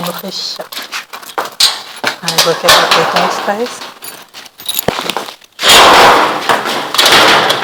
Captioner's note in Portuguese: égua chutando a porta para chamar atenção